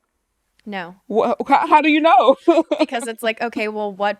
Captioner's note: laughs